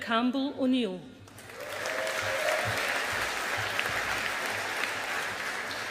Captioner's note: audience applauding